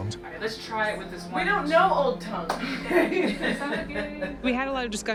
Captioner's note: laughing